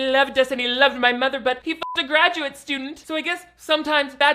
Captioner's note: beep